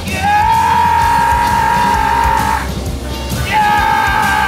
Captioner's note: shouting